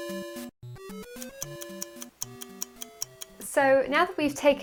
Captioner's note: timer ticking